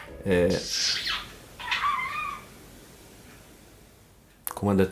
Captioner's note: chirping